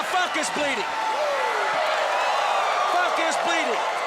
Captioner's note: crowd cheering